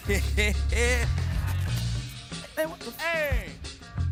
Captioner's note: performer laughs